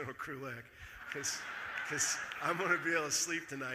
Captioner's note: audience laughing